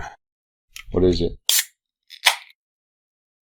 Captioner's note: can hisses, can pops open